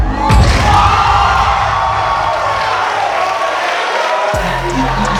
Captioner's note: spectators applauding